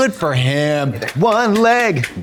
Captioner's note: Trixie applauds